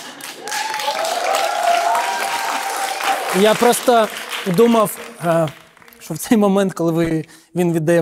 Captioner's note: applause